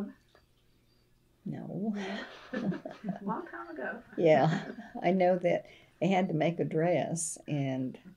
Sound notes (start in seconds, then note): 2.0 laughter